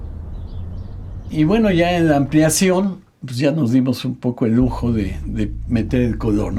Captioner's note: continues in Spanish